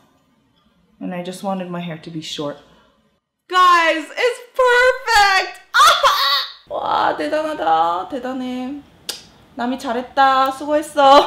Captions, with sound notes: and I just wanted my hair to be short. Guys, it's perfect! (laughs) (speaking in foreign language)